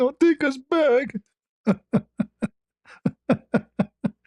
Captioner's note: ketawa